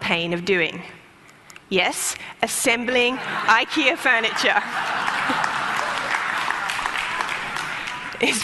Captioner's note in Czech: Smích; Potlesk